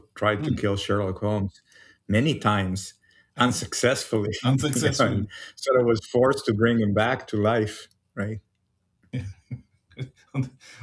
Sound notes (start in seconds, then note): 9.1 laughs